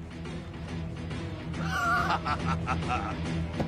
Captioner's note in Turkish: Gülüyor